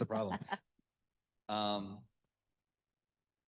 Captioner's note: laughs